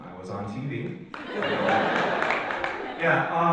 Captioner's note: audience laughs